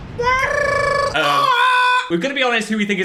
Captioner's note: imitates explosion booming; trilling